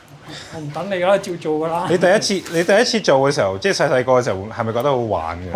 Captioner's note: speaking in foreign language